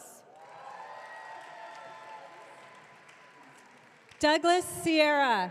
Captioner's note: audience cheering